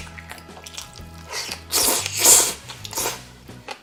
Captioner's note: slurrp Slurp